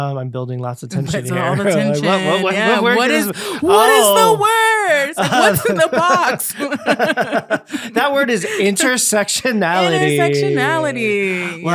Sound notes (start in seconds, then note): 5.1 both laughing